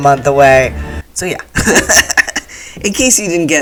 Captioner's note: laughter